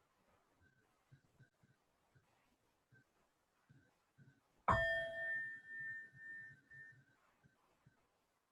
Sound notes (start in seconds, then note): 5.0 bell chiming